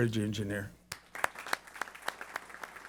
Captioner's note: applause